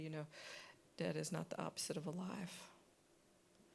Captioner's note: none